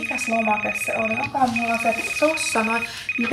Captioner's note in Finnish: Puhelin soi